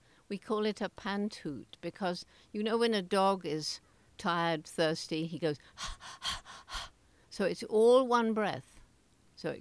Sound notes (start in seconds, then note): 5.7 panting